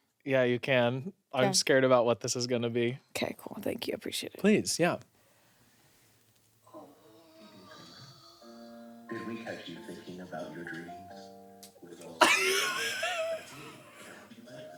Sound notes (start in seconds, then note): 9.2 voiceover; 12.2 laughs